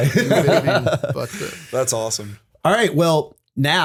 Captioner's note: laughter